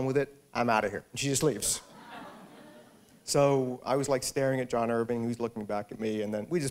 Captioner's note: laughter